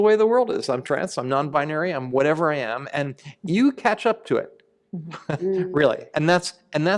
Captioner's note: chuckle